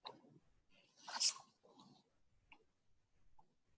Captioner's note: page turning